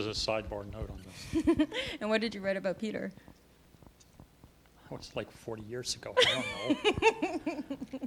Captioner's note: laughter